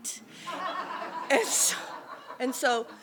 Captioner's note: laughter